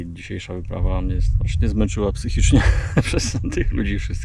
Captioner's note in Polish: śmiech